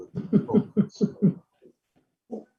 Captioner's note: chuckles